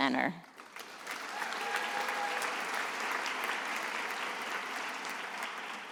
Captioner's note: attendees applauding